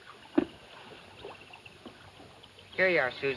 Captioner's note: none